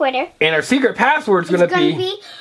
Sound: voiceover

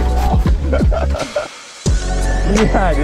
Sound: laughs softly; mellow synth music continues

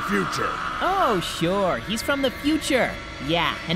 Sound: sarcasm ABOUNDING

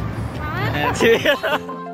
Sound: laughs

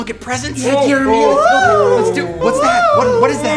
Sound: baby noises; high pitched moaning

